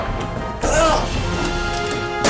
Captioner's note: gunshot & Groan; groaning